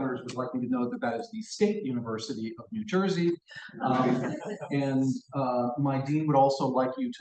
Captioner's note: laughter